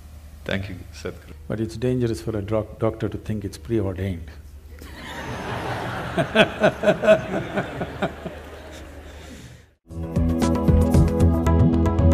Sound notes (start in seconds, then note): 4.8 laughter; 9.3 笑聲